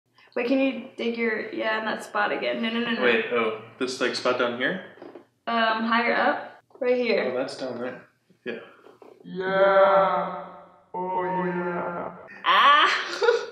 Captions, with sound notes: - Wait, can you dig your... Yeah, on that spot again? No, no, no. - Wait. Oh, this spot down here? - Higher up. Right here. - Oh, that's down there. Yeah. - (echoing) Yeah. Oh, yeah. Ah.